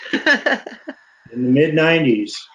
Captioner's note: panel laughs